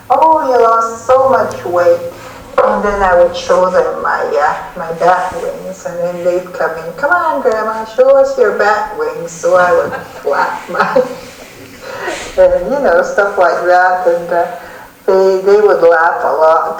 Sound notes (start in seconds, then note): 10.5 laughter